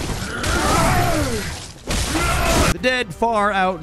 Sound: hunters yell

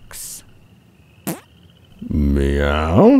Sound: fart

